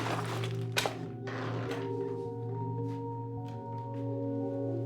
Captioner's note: suspenseful music; door creaking